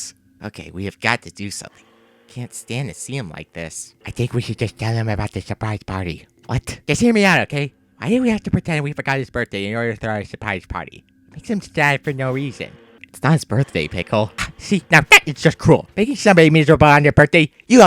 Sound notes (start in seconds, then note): 13.6 scoffs